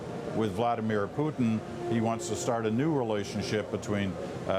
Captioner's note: none